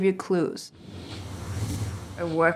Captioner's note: whooshing